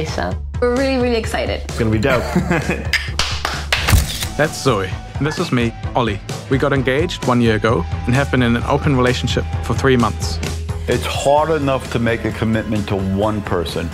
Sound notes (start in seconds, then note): 2.1 laughing; 3.0 clapping